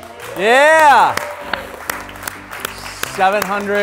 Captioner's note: applause